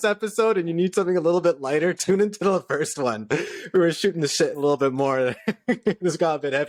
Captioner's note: laughter